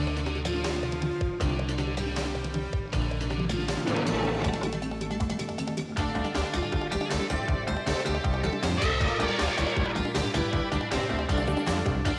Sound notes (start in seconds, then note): 0.2 upbeat tense music; 3.4 leopard growling; 8.7 elephant trumpeting